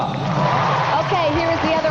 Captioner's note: crowd cheering and applauding